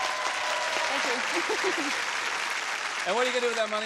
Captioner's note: applause and cheers